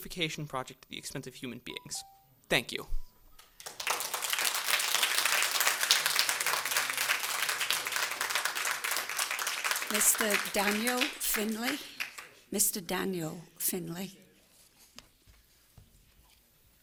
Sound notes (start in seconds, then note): 6.9 applause